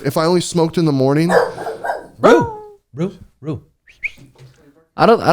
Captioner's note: dog barking